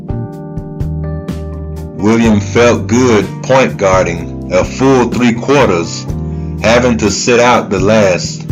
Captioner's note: none